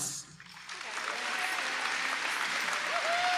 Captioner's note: audience applauding